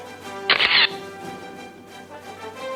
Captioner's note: camera shatters; orchestral music